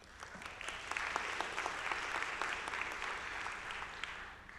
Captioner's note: audience applauding